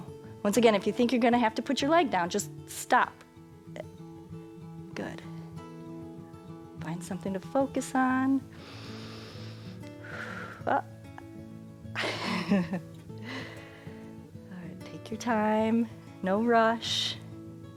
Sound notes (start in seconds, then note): 8.5 inhales and exhales; 12.0 laughs